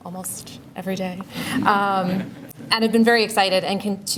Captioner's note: laughter